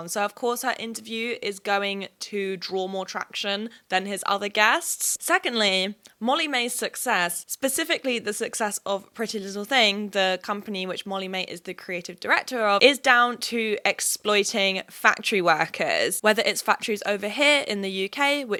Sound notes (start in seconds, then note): none